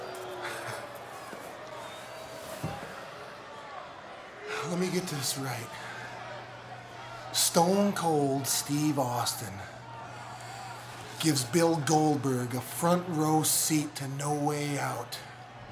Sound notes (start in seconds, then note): 1.0 Brock grunts